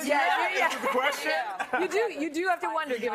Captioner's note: laughter